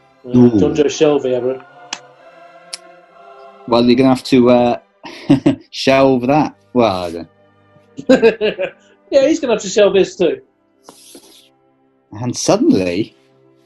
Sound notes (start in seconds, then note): 5.0 chuckles; 8.0 chuckles